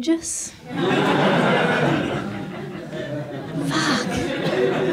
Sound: audience laughs

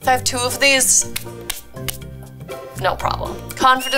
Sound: brushing hands

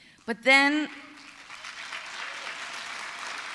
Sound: applause

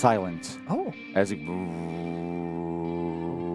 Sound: vruum

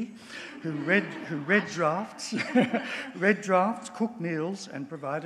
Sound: audience laughs

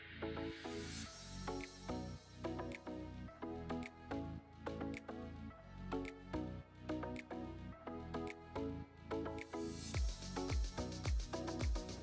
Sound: applause

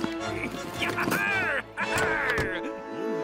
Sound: laughing

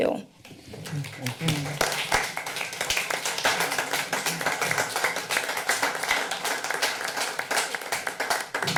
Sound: applause

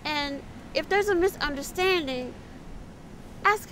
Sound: none

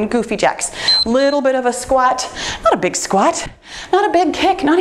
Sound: timer beeps

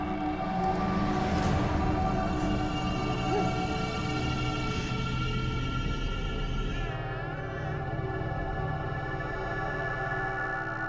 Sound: baby crying

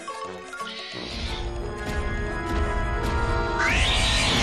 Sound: mantis screeching

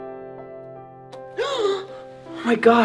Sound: gentle piano music; gasping

